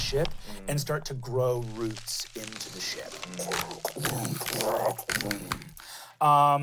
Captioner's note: imitates crackling